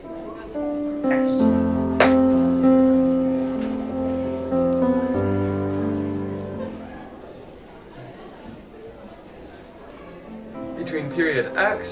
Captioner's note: highschool noises